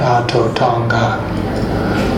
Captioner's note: male voice speaking in Indigenous Myaamia language